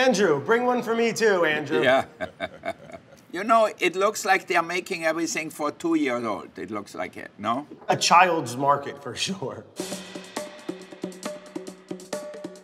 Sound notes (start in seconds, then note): 1.7 laughs; 9.8 upbeat music